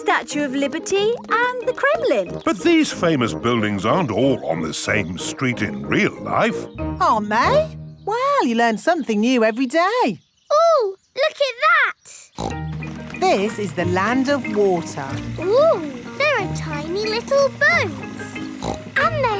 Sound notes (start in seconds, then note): 12.3 snorts; 16.9 snorts